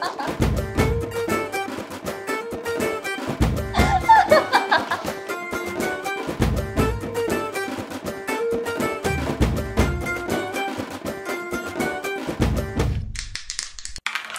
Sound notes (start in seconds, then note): 3.7 laughing